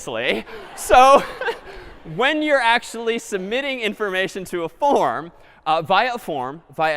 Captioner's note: laughter